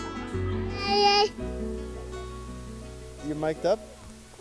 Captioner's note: babbling